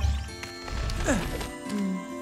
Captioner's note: Fang grunts